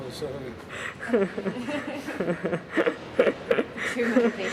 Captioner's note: laughing